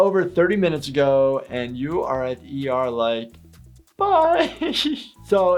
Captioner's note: laughs